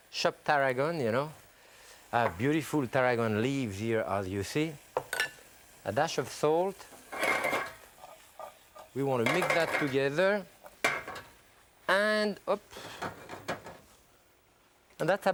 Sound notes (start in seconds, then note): 7.2 pot clatters; 7.2 vegetables hitting pot; 12.8 pan clatters